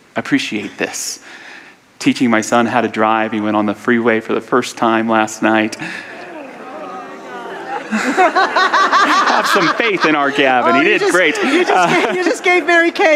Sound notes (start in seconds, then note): 4.8 audience audible sounds of ‘ohh’; 7.0 laughter